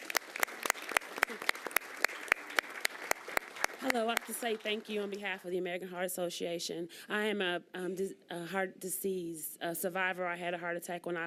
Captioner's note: applause